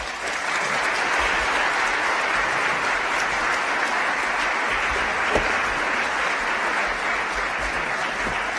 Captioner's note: applause